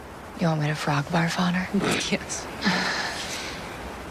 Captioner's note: chuckling